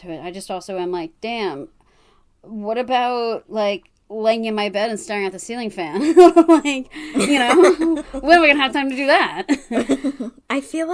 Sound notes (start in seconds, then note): 6.9 laughs